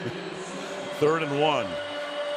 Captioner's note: pa announcement